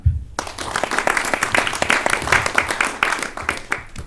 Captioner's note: attendees clapping